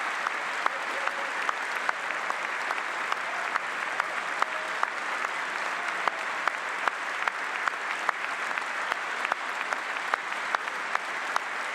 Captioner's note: applause